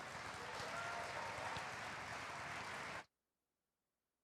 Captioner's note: applause